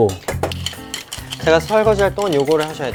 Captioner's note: stirring around